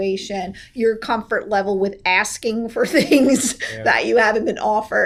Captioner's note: laughs